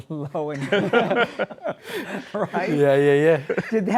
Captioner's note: laughter